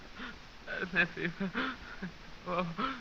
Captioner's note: muttering